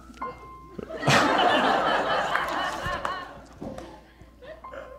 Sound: audience laughing

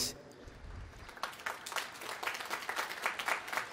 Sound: applause

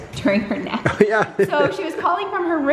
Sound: laughs

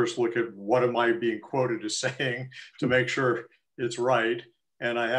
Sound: laughter

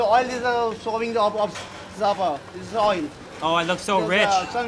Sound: speaking foreign language

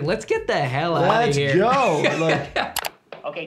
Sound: laughing

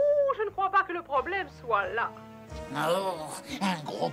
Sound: grunting

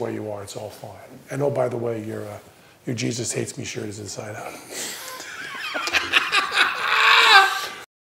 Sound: laughs

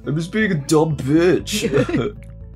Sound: chuckles

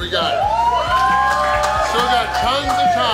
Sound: crowd cheers and claps

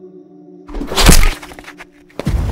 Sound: gun shot

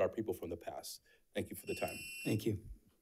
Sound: timer sounds

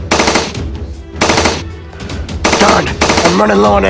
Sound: loud gunshots

